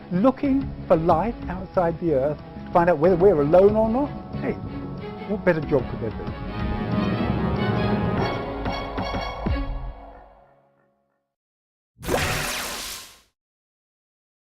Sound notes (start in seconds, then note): 9.9 swooshing Sound